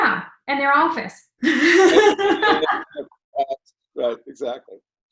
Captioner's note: laughing